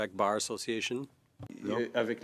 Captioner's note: speaking French